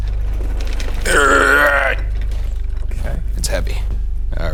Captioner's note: grunting